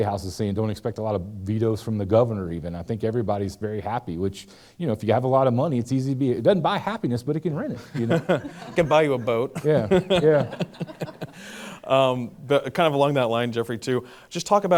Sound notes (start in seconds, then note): 7.8 laughs; 10.4 laughter